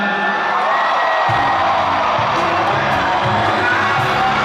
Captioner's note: audience cheering